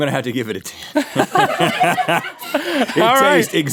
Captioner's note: laughs